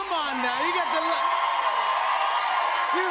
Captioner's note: cheers and applause